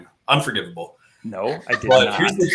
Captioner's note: laughter